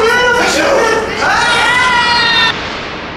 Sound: screams

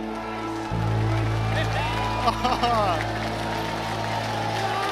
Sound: crowd claps and cheers

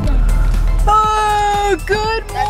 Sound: yawns

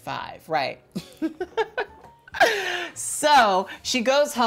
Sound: laughs

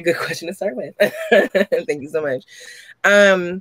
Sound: laughs

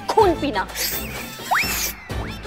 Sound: slurping sounds

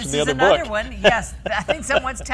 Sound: laughs

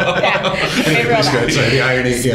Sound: laughter

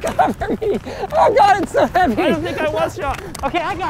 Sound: laughing

